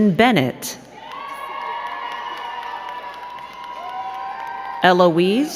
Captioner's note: crowd cheering and clapping